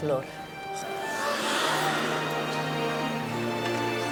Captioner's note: people shout